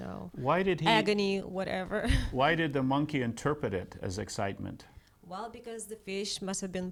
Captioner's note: laughing; laughs